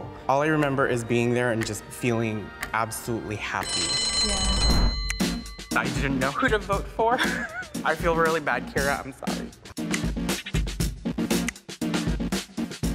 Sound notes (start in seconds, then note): 3.6 bell ringing; 4.7 upbeat rhythmic music; 7.2 laughing